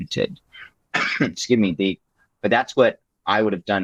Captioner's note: coughs